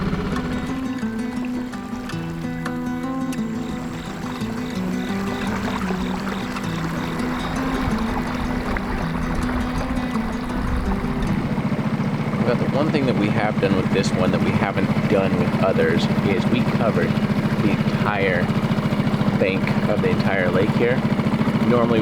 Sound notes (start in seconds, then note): 4.8 insects chirping